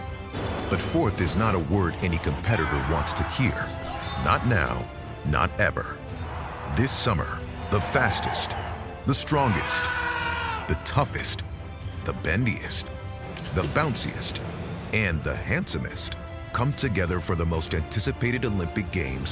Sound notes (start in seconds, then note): 9.3 screams